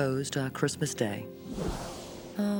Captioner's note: shimmer